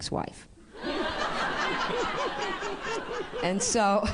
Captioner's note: laughter